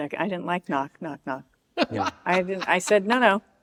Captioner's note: laughs